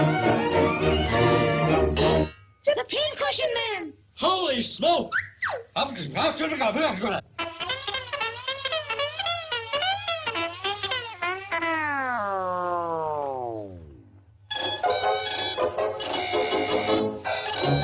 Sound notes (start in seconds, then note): 5.4 mustache squeaks; 6.2 balloon speaking gibberish; 12.7 balloon wheezing; 14.6 upbeat music